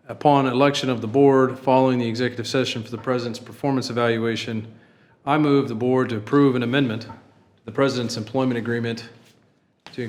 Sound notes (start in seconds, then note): none